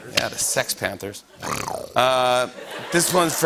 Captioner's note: growls; laughter